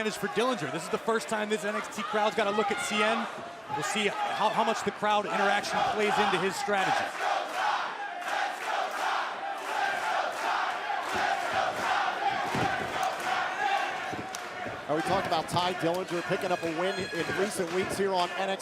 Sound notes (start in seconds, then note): 10.0 crowd chatter